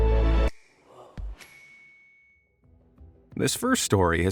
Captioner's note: gentle suspenseful music; bell dings